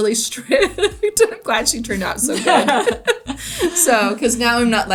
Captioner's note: laughs